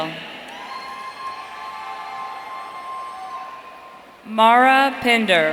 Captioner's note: audience cheering